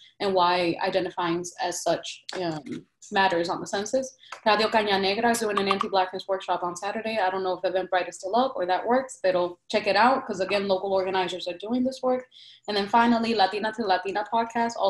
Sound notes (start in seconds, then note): 4.4 speaks in Spanish